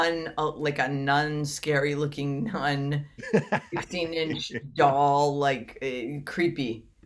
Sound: laughs

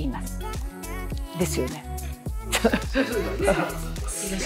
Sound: laughter

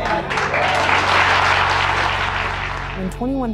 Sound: clapping

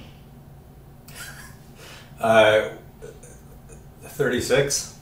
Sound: laughs

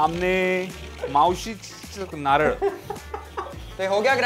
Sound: speaks in Marathi

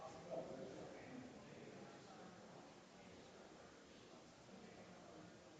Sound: people chattering distantly continues

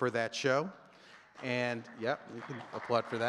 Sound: audience clapping

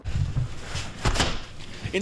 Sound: nat closing window

